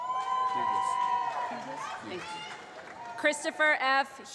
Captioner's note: applause